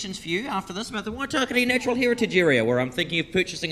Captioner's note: speaks in foreign language